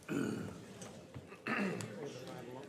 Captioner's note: chorus of ayes